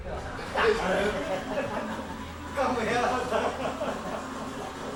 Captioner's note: overlapping chattering